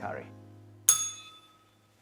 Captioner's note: bell rings